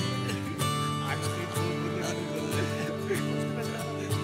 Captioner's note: Both laugh